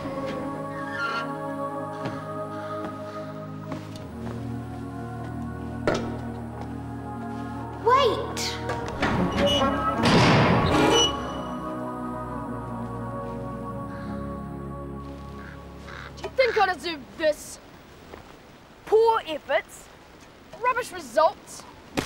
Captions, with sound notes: (door creaking) - Wait! (door slamming) - Do you think I deserve this? Poor efforts, rubbish results.